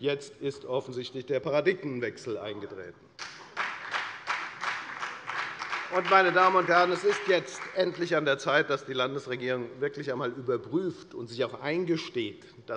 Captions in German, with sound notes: Jetzt ist offensichtlich ein Paradigmenwechsel eingetreten. [Beifall bei der FDP] Meine Damen und Herren, es ist jetzt endlich an der Zeit, dass die Landesregierung wirklich einmal überprüft und sich eingesteht,